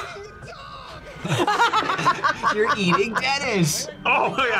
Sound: laughs

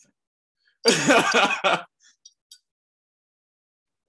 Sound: laughs

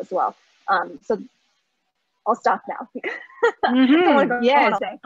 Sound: laughs

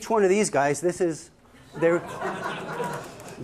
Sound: laughter

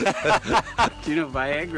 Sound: laughs

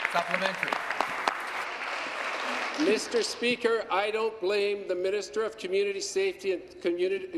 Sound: applause

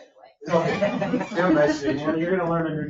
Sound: people laugh

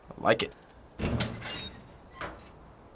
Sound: door creaks

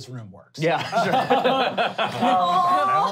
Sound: laughing

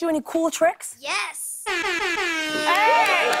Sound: air horn blares

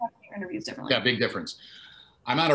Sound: audio glitch

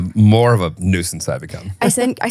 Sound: laughs

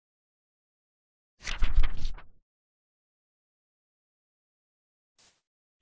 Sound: fluttering Pages

